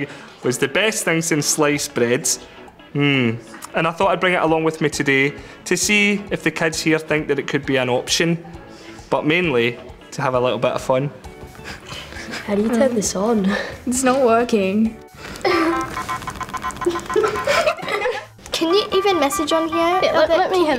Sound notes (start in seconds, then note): 16.8 pupils giggle